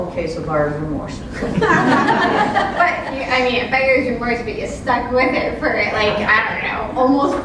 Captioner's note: laugh